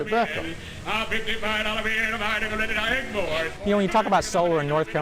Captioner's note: lively auction chant